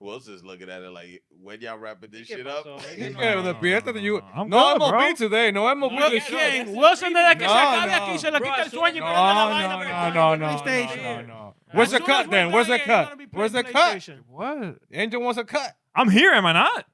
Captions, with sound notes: Wilson's looking at it like, when y'all rapping this shit up. You got a little bit, no I'm a bitch today. No, I'm a bitch too. Okay, Wilson did I get a check out? (Speaking In Foreign Language) No, no, no, no, no, no, no. Where's the cut then, where's the cut? Where's the cut? What? Angel wants a cut. I'm here, am I not?